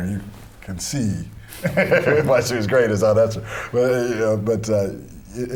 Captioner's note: laughter